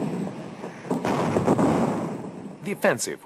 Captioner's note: bombs exploding; guns firing